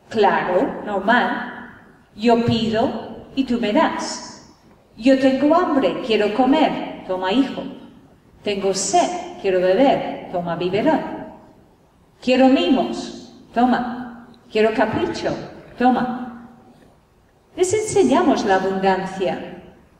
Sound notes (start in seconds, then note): none